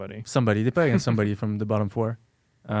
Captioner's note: laughs